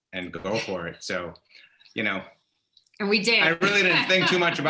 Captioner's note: chuckles